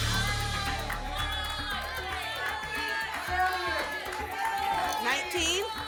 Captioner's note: audience shouting numbers